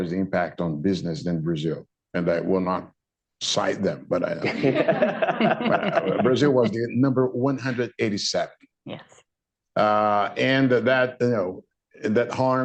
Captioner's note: laughter